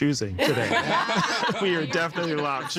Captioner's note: all laughing